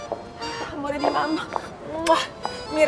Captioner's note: kissing sound